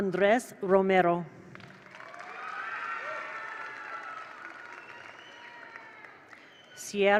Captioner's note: attendees applaud; attendees cheer